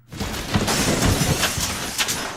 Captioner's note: furniture crashes